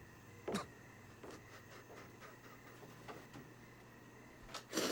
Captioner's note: sobbing